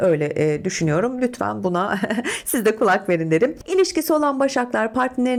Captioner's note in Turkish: kahkaha